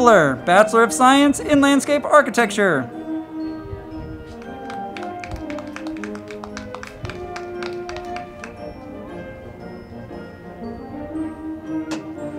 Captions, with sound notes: Bachelor of Science in Landscape Architecture. (band music) (crowd clapping)